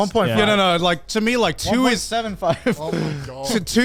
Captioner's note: laughs